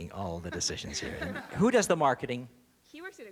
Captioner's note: laughter